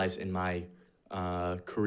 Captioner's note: none